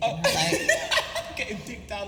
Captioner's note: laughing